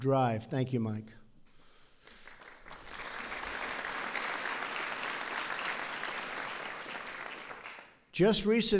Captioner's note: applause